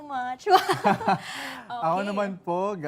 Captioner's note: laughter